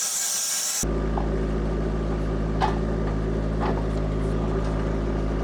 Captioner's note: engine rumbling